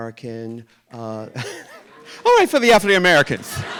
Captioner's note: Ru Paul laughs; audience laughing